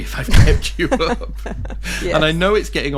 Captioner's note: laughing